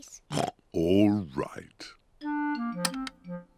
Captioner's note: oinks